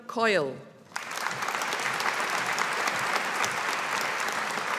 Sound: audience applauding

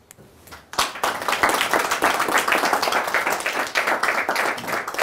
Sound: audience clapping

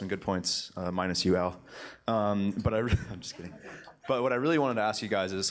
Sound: chuckles

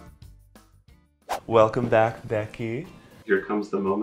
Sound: whooshing

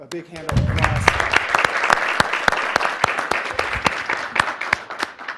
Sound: everybody clapping

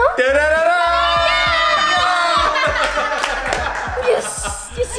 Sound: all yelling

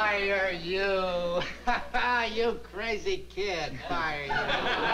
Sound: laughs

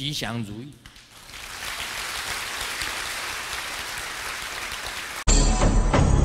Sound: audience applause

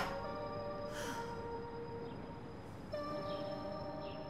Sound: Samantha sighs

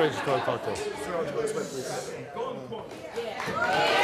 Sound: man talks softly; audience cheering

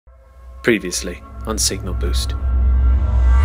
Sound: voiceover; dramatic music

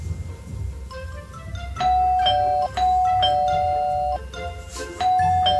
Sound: ding🔔Ding🔔

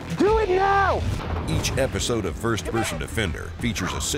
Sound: voiceover

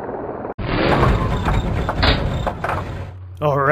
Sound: engine rumbling

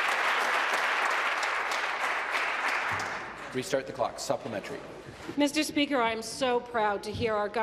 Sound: applause

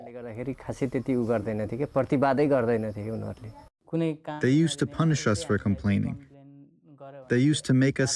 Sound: through translator

